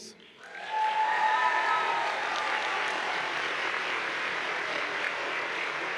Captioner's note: audience applauds and cheers